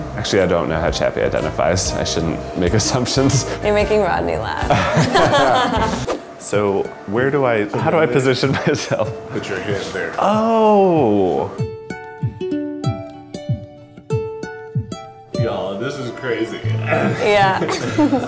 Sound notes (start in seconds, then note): 4.6 all laughing; 12.5 instrumental music